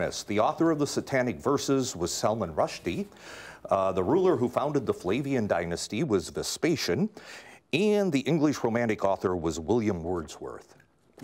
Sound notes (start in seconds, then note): none